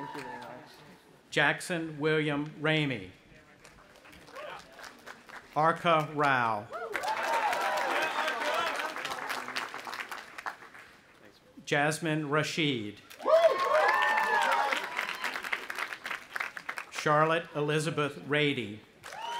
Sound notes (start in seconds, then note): 3.9 audience applauding; 6.8 audience applauding and cheering; 13.1 cheering